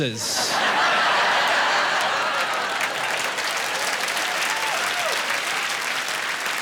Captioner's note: laughing, applause